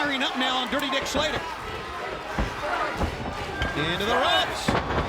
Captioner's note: crowd chanting